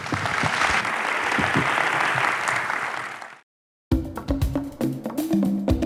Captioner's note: audience applauding; jungle drum beats